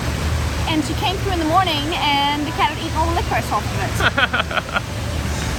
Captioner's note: laughs